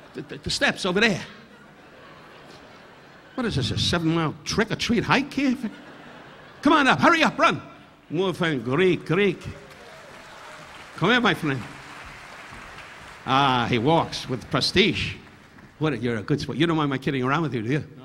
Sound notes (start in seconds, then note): 8.3 Don speaking in Greek; 9.2 audience applauding